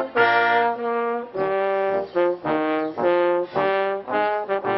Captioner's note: none